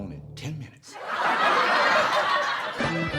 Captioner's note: audience laughs; lighthearted music